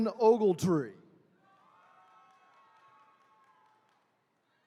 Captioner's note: attendees cheering